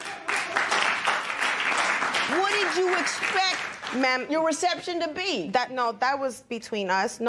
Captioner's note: applause